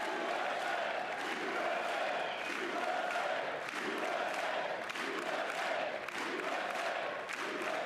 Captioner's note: applause